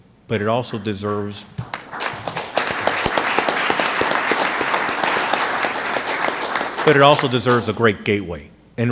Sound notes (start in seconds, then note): 1.6 applause